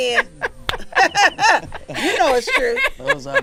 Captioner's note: laughing